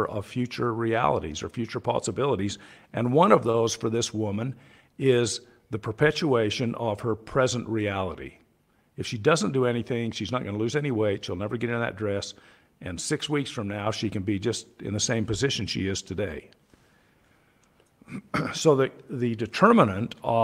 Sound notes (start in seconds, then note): 18.0 clears throat